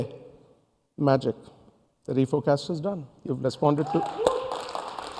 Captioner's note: applause